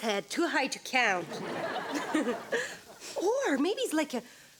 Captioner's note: audience laughs